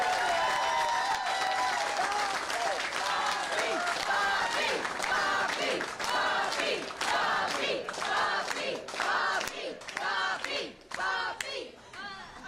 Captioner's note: applause